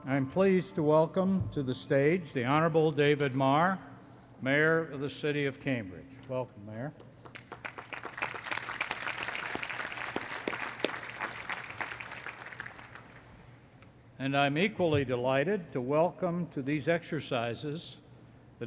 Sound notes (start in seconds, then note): 7.0 applause